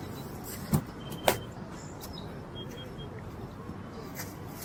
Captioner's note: bat taps